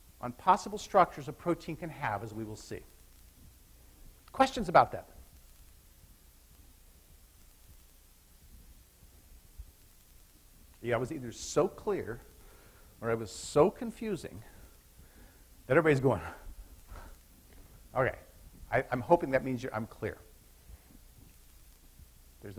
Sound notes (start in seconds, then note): 17.3 panting